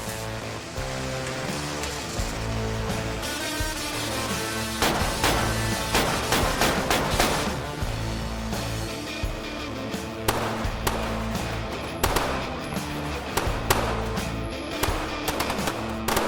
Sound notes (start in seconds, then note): 5.0 gunshots banging; 10.2 gunshots popping